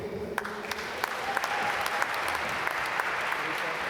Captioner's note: applause